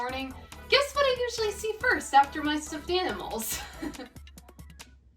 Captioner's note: laughs